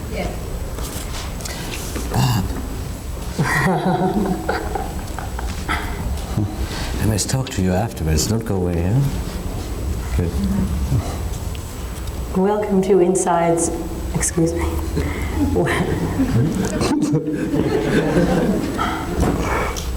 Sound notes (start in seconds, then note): 3.3 laughing; 14.8 audience laughing; 14.9 chuckle